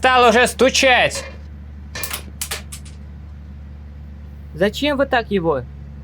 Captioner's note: crane motor hum; plastic part hits various surfaces